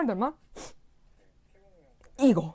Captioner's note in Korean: 훌쩍